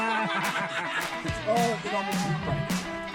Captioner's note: laughs